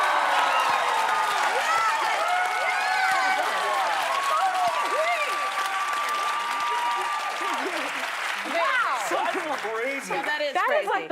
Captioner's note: cheers and applause